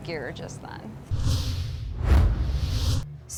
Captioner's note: forceful wind sound